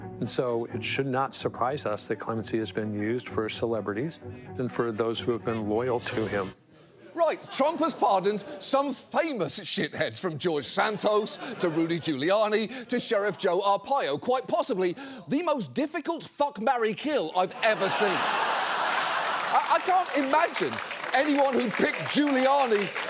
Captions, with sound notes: And so it should not surprise us that clemency has been used for celebrities and for those who have been loyal to him. Right, Trump has pardoned some famous shitheads, from George Santos to Rudy Giuliani, to Sheriff Joe Arpaio. Quite possibly the most difficult fuck-marry-kill I've ever seen. (STUDIO AUDIENCE LAUGHS) I can't imagine anyone who picked Giuliani